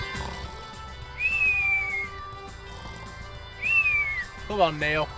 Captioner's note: snoring; upbeat music